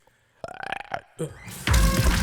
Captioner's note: Matty makes croaking sound; energetic music